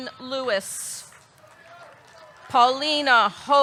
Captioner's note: audience clapping; audience cheering